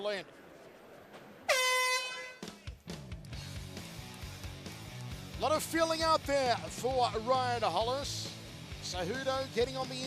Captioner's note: horn sounding